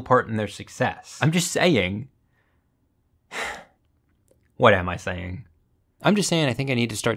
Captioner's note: sighs